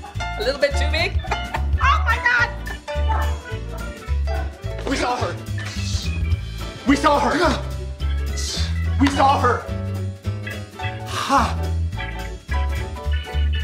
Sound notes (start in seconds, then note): 6.0 Travis gasps; 8.4 Travis gasps; 11.0 Travis gasps